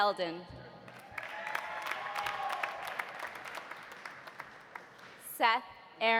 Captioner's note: audience applauding; audience cheering